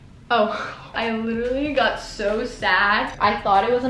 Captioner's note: none